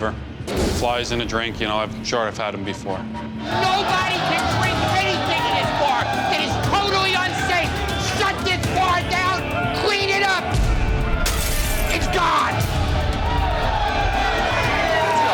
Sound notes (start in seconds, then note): 11.2 glass shattering; 13.6 cheering